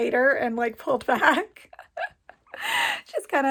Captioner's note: laughs